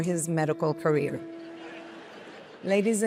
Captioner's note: audience chuckles